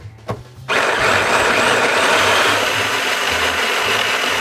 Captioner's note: mixer whirling